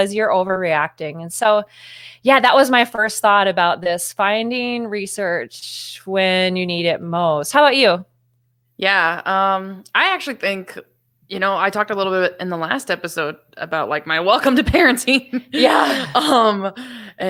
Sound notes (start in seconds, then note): 15.4 laughs